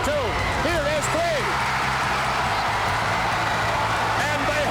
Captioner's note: crowd cheering